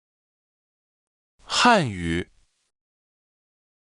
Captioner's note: Mandarin